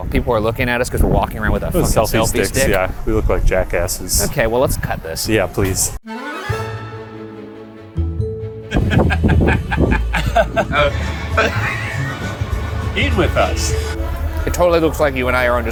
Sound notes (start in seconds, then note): 7.7 bright music; 8.7 laughs